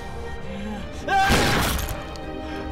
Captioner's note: gunshot